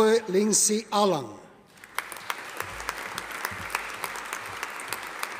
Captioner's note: audience applauding